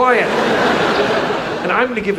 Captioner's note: audience laughs